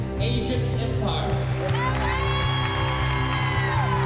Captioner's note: applause and cheering